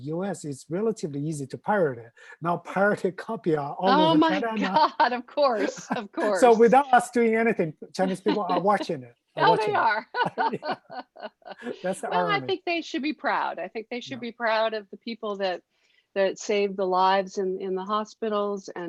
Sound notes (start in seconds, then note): 9.4 laughing